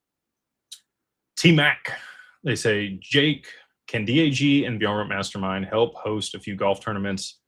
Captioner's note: clears throat